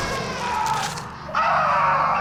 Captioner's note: sound of flesh being torn from bone; Nigel screams in agony